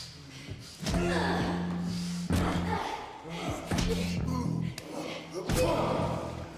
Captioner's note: people groaning; blows thudding